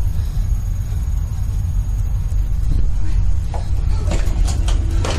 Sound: woman whimpers

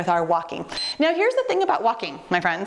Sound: timer beeps

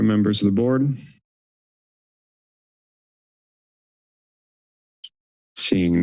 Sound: silence

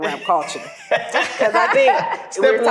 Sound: laughing

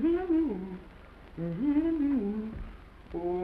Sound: humming

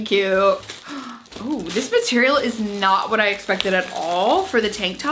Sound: gasps

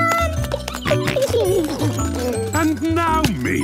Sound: giggling, snorting

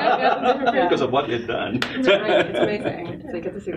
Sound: laughs

